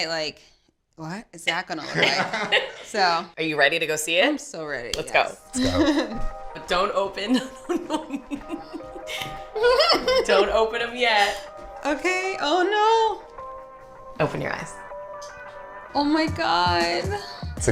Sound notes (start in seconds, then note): 1.8 laughing; 9.8 laughing